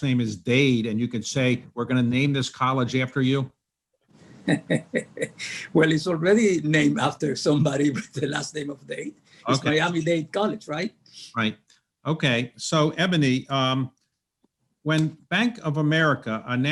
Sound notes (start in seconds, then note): 4.4 laughs